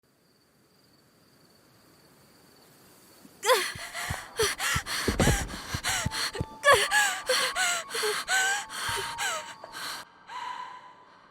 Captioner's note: heavy breathing